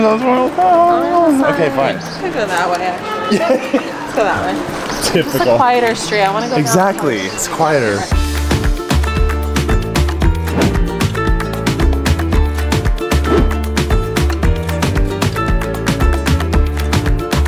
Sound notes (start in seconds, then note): 3.3 laughs; 9.0 upbeat music